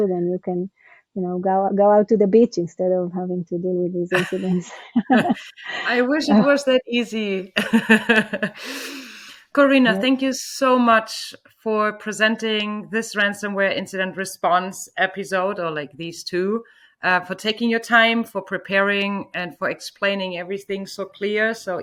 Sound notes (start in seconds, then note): 4.1 women laughing; 8.8 laughs